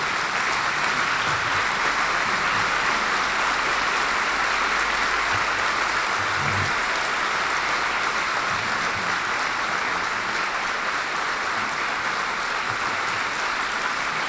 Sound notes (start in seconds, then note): 0.0 applause